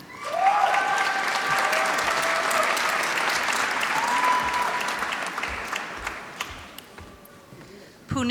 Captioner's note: applause